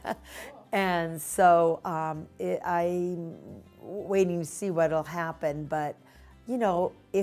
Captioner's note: laughter